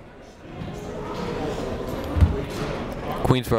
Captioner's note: people talking in the crowd